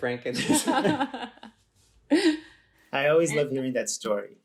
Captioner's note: laughs